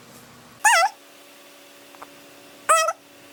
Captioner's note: in chipmunk voice